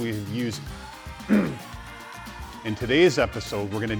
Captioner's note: clears throat